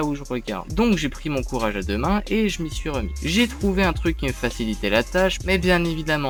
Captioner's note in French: Horloge qui passe